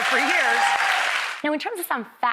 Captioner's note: audience cheers